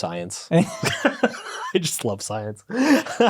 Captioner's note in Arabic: يضحك